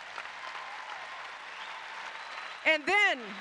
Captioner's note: applause